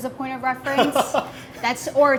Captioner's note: laughs